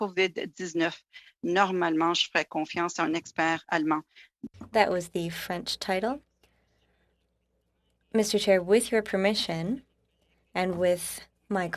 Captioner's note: speaking French